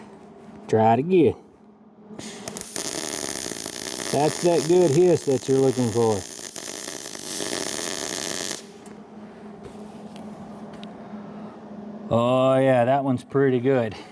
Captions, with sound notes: Try it again. (Motor Whirring) That's that good hiss that you're looking for. (Motor Whirring) (Motor Whirring) Oh yeah, that one's pretty good.